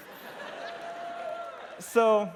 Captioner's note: laughter